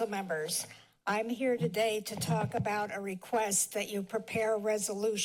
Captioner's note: mic fixing